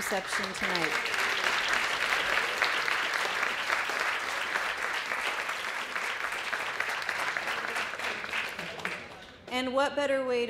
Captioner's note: applause